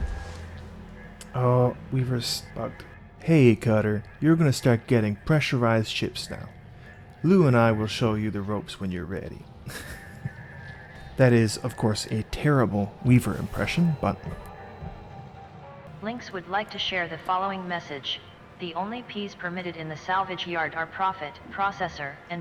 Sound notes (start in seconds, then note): 9.4 laughs; 16.0 Hab Voice